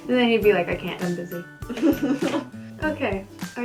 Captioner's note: laughter